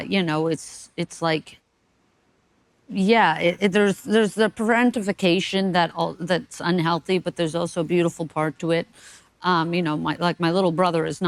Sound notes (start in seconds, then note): none